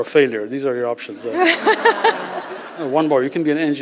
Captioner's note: laughter